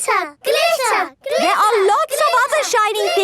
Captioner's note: chanting